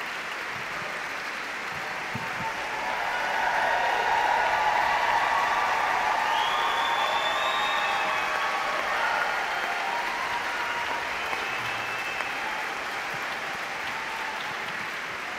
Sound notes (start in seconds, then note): 3.7 audience cheering; 3.7 audience clapping